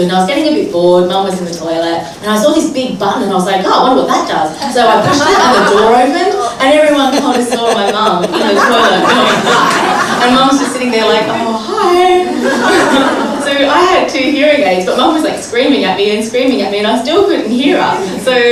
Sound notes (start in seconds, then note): 4.9 laughter; 9.6 laughter